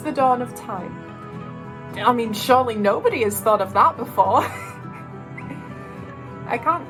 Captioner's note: laughs